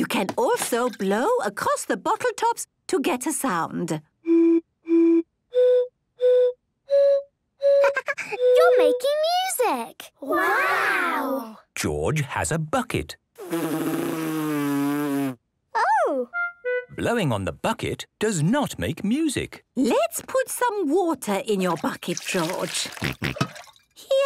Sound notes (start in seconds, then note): 4.2 blows notes of type song; 13.4 blows